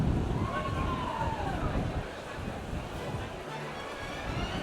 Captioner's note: guest cheers